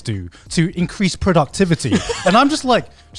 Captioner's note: laughs